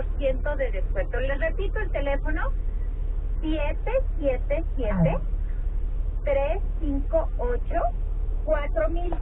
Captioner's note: sound of the radio